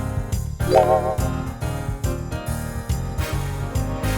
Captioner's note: festive music continues; sign ringing